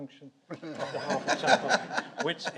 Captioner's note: audience laughs